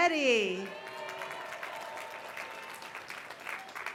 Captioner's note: applause